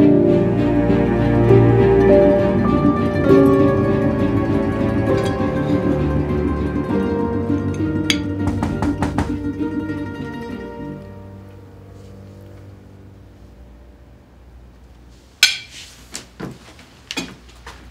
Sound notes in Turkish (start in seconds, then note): 8.4 kapı vurulur